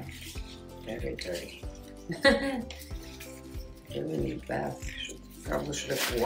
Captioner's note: laughing